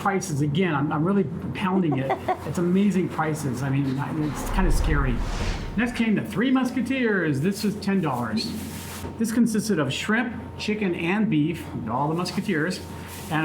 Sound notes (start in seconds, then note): 1.7 chuckles